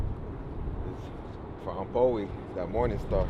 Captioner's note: speaks in Indigenous language